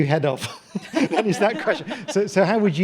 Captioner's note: panellists laughing